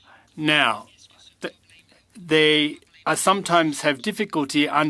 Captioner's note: speaking French